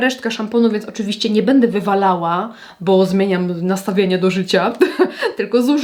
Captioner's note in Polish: śmiech